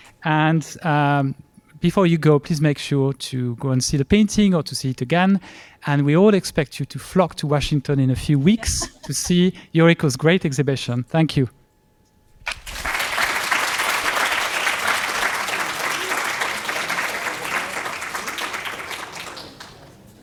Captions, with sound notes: And before you go, please make sure to go and see the painting or to see it again. And we all expect you to flock to Washington in a few weeks to see Yuriko's great exhibition. Thank you. [APPLAUSE]